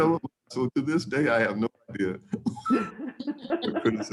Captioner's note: laughs